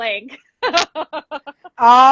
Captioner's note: laughing